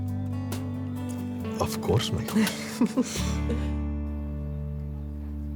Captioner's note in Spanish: Risas